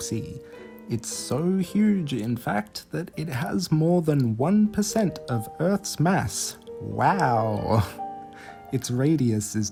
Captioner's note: sarcastically